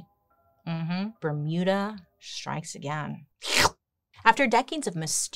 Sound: slurps

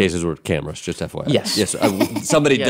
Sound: laughing

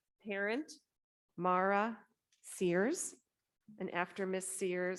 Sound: none

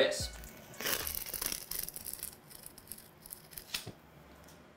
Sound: tape peeling

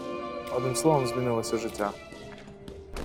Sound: speaking in ukrainian

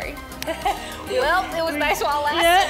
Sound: laughing

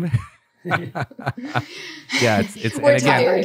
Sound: laughter

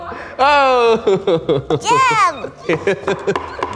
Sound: laughs

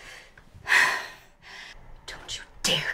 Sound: Maha sighs

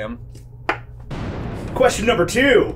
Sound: lightning crashing

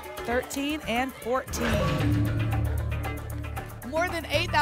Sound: ping; whoosh

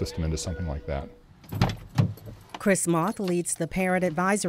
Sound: voiceover

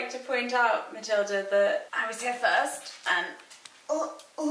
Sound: grunting

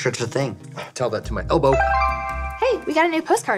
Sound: notification dinging

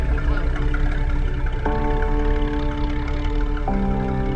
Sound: speaking faintly

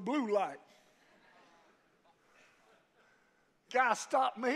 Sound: congregation laughs

